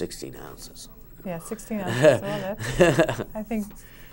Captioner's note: laughs